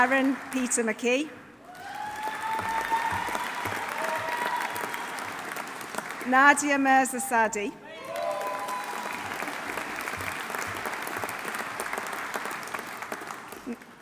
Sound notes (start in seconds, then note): 1.6 audience cheering; 1.7 audience applauding; 7.9 audience cheering; 8.0 audience applauding